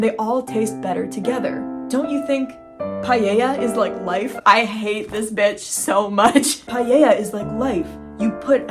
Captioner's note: laughing